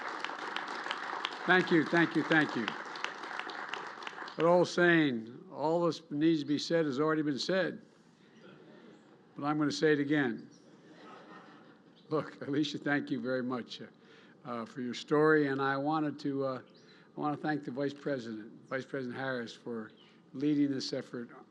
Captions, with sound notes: (Applause.) Thank you, thank you, thank you. That old saying, "All that needs to be said has already been said, but I'm going to say it again." (Laughter.) Look, Alisha, thank you very much for your story. And I wanted to -- I want to thank the Vice President, Vice President Harris, for leading this effort